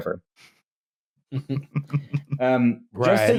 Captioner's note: chuckles softly